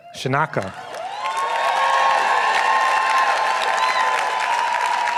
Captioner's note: applause